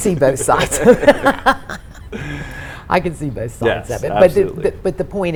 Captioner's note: all laughs